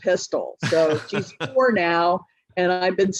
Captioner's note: laughs